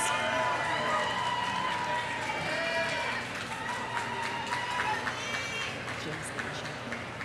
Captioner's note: audience cheering; audience applauding